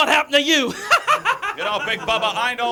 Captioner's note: cackles